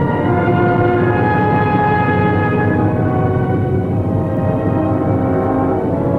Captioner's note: plane engines humming